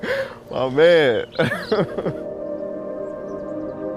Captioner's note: laughs; ambient music